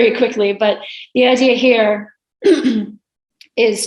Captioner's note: clears throat